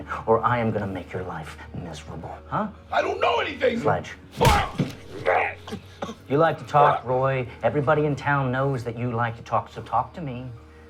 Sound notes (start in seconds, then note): 4.4 thud; 4.4 coughing